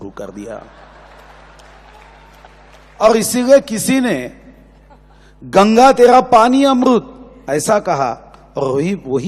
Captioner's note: applause